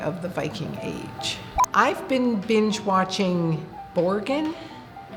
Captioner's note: beep